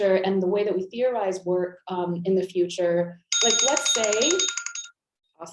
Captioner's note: alarm chiming